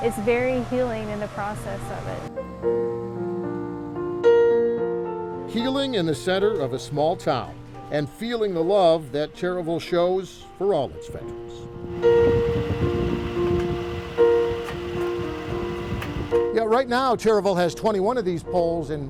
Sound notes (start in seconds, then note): 2.6 calm piano music; 11.2 wind blowing; 13.6 calm piano music